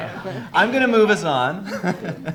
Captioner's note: group chuckles